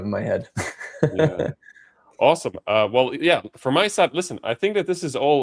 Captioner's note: laughter